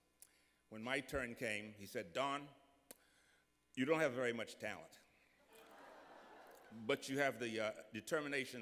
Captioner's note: laughter